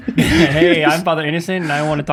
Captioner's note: group laughs jokingly